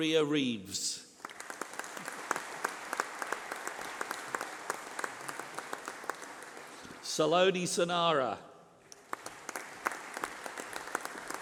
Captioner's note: applause